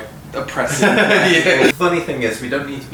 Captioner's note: laughs